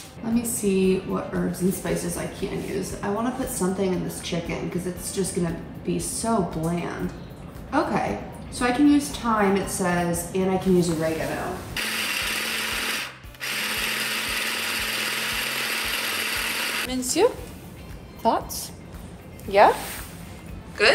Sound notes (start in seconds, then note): 11.8 food processor buzzing